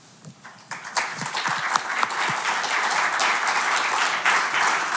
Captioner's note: audience clapping